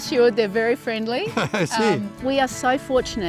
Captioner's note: laughing